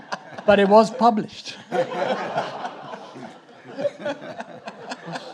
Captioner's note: audience laughing